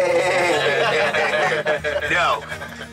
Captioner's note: lalaugughthterer